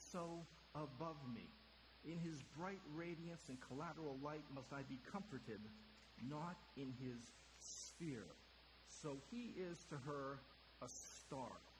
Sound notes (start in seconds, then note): none